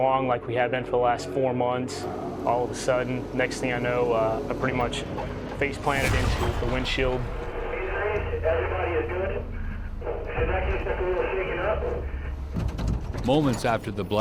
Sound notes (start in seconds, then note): 7.9 marine on radio; 12.7 voiceover